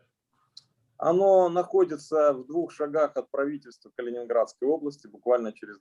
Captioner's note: speaking Russian language